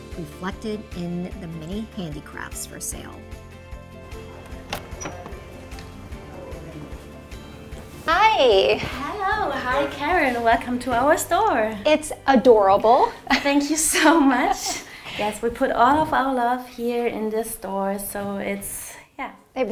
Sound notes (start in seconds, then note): 3.3 upbeat music; 4.3 door squeaks